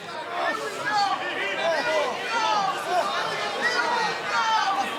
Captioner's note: crowd shouting